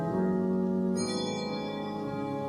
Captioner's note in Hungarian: csengetések